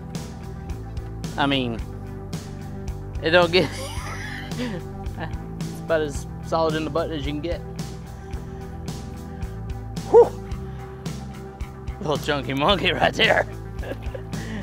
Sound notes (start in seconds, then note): 3.6 chuckles; 9.4 soft music; 14.4 soft music